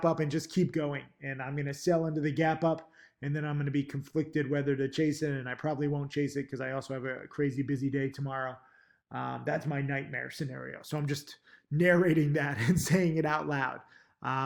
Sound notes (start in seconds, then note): 12.2 laughs